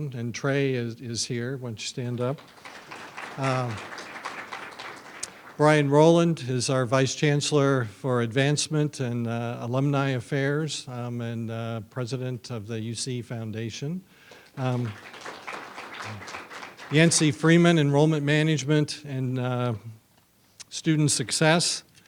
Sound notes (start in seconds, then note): 2.2 audience applauds; 14.5 audience applauds